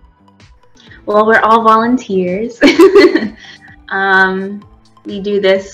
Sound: laughs

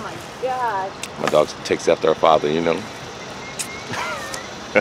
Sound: laughs

